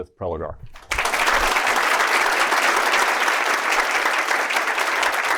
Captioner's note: applause